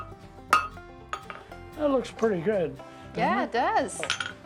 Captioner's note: hammer striking metal